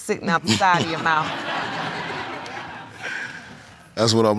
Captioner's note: laughter